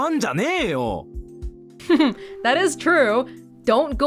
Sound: chuckles

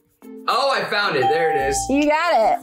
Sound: bell rings

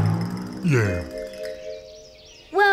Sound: burping

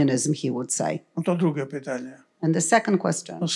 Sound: foreign language

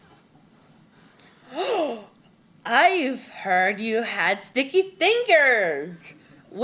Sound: gasped

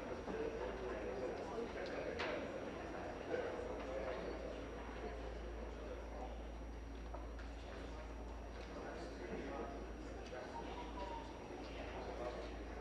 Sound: crowd Noise

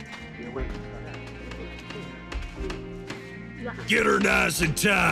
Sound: SOUND: hand tools, laborers fixing up a gallows

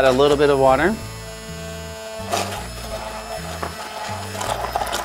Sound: blender whirring

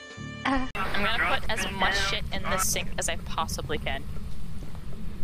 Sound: talking in background

